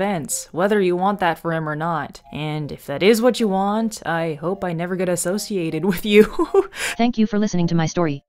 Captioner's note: laughs